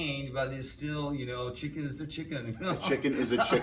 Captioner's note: laughs